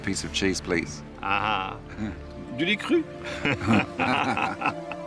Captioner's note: laughs